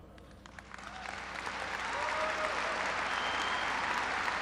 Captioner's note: applause